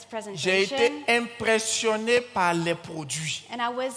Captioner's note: continues in French